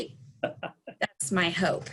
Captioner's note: laughing